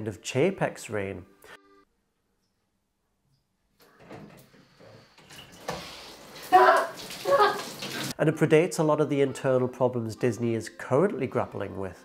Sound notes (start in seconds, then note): 6.5 screams